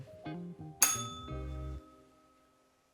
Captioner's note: bell rings